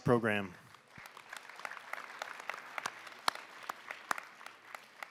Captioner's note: applause